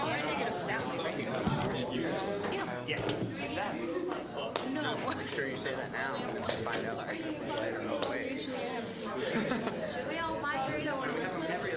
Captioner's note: general chatter